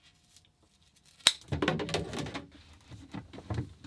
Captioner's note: clattering